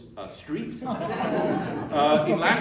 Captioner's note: laughter